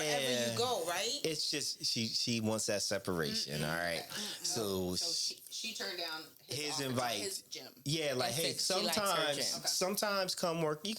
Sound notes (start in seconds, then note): none